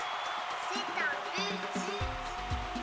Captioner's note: cheering noises; speaking in Foreign Language